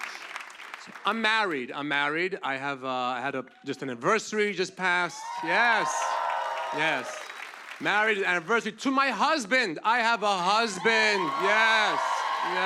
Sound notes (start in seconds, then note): 5.0 cheers and applause